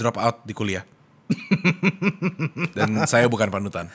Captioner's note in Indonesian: ketawa tipis